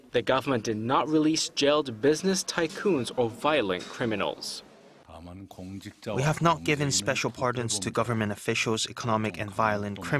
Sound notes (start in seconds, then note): 4.6 Korean